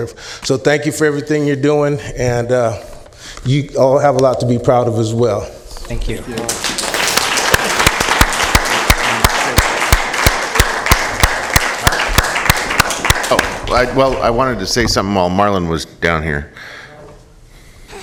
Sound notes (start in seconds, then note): 11.2 applause